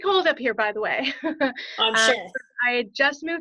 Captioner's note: laughs